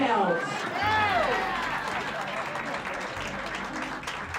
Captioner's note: crowd cheering